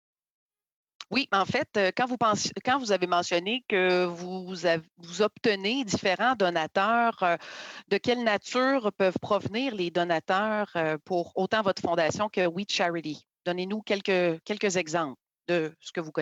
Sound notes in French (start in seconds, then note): 2.7 voix de l'interprète